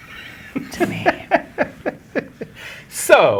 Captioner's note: guy laughing